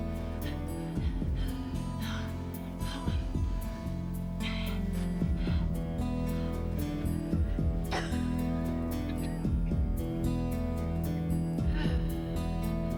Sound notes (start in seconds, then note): 4.7 breathing heavily